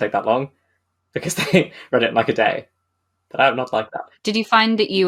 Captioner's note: laughing